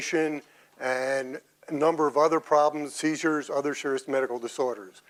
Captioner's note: none